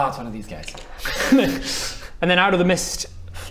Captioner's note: laughs